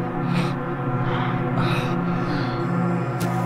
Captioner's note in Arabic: أزيز